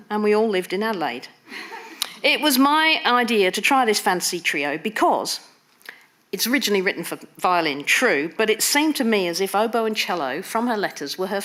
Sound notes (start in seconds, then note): 2.0 audience laughing